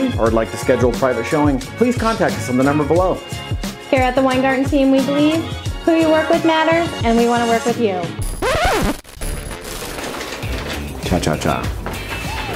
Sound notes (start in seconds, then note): 8.2 tape cutting